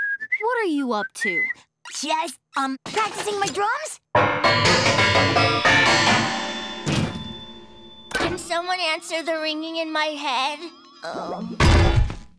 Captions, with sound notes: What are you up to? Just, um, practicing my drums. [metal clanking] Can someone answer the ringing in my head? Oh...